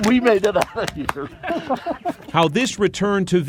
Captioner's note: laughing